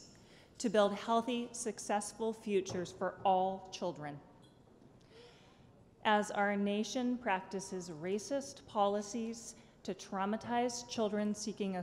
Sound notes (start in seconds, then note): none